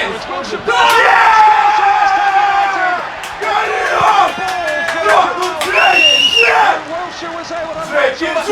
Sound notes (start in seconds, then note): 2.5 applause